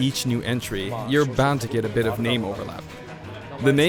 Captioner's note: chuckles